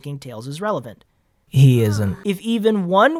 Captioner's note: annoyed sigh